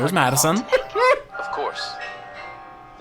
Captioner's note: laughing